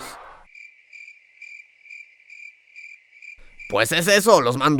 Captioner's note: criquet sound